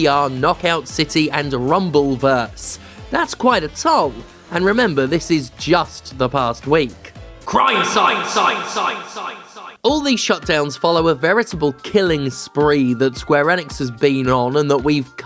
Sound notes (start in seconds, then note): 8.3 echoes the word Sight